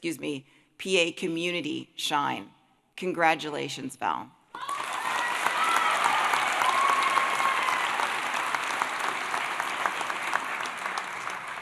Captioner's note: applause